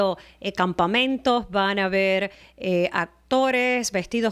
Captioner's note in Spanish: Hablando ingl\s